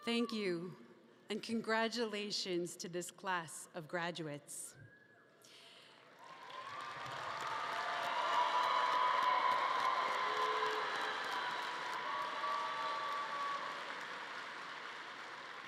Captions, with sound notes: Thank you and congratulations to this class of graduates. (audience cheering and clapping)